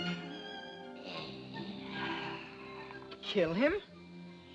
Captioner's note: suspenseful music; snakes gasps